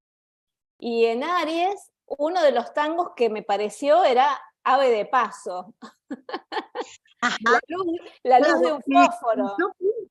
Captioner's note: laughter